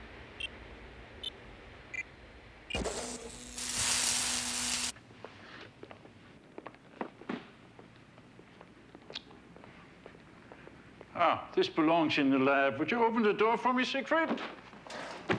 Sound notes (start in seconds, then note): 0.3 beeps; 2.7 crackling